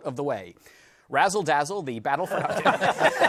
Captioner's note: laughter